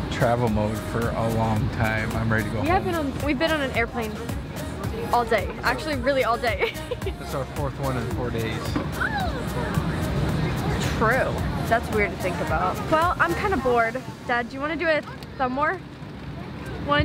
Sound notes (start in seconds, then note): 4.8 laughs